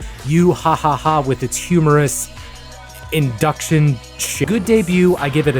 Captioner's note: ha Ha Ha